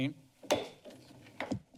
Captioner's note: bangs gavel